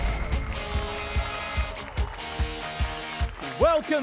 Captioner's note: applause and cheers